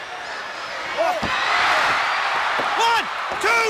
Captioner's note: audience cheers